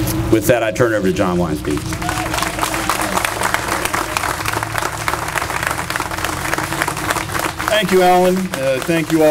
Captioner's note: applause